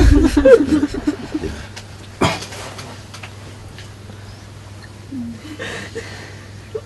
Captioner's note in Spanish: risas y sollozos